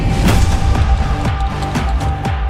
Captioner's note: clap